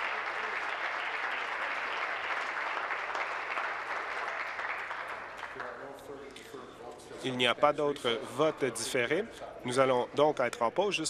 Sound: applause

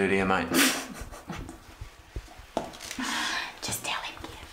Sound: woman chuckling

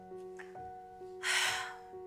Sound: sighs

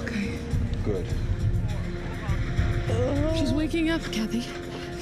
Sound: groans

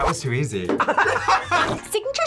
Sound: both laugh

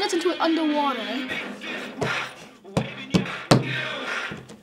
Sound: pounding table; music distorts

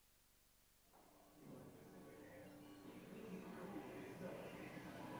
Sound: garbled radio noise

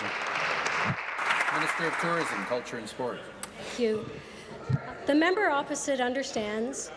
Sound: applause

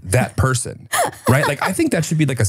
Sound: laughs

